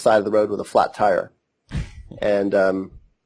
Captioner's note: laughs